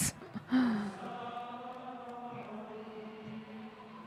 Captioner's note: group chanting